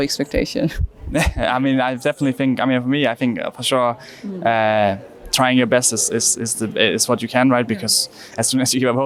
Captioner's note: laughs